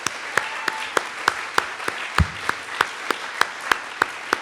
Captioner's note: audience applauds; claps hands